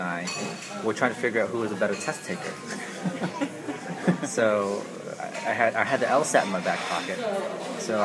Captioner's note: laugh